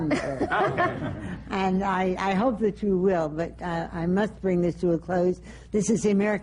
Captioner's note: laughter